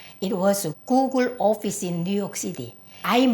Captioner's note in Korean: none